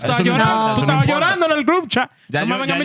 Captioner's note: speaking In Foreign Language